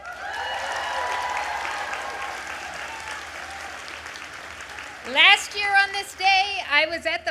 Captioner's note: applause